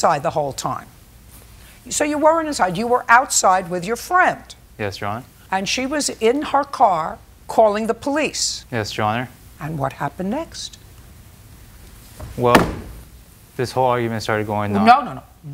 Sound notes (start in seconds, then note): 12.2 bangs gavel